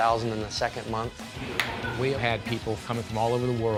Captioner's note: hands clap